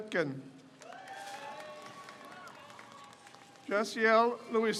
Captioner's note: crowd cheers